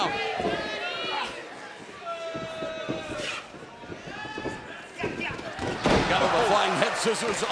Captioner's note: crowd chatter